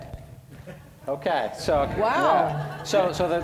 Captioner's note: audience laughing